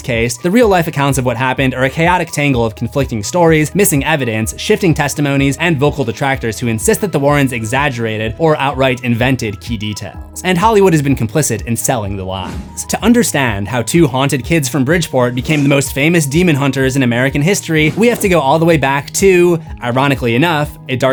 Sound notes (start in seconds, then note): 7.7 exaggerated